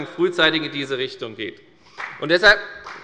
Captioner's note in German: Beifall bei der FDP